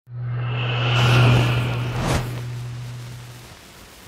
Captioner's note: logo whooshing